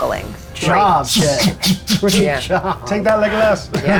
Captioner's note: puffing